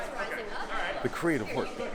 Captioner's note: background chatter